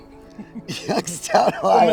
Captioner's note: chuckling